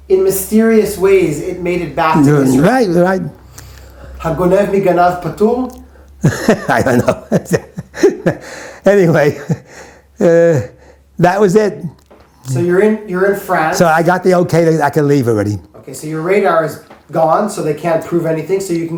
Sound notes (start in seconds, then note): 6.2 laughs